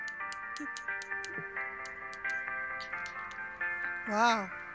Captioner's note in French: fredonne la musique